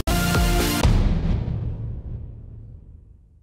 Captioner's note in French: Boum